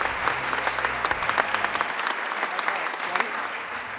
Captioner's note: applause